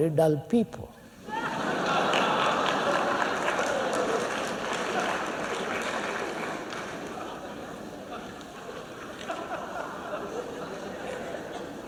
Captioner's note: laughter; clapping